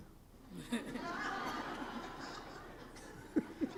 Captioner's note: laughing